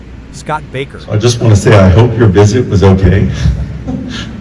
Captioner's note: laughs